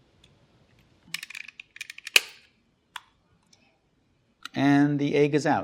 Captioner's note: mechanical clacking